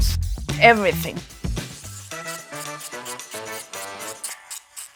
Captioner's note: tool buzzing